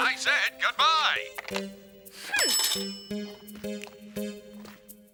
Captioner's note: dinging